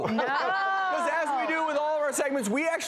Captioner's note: laughter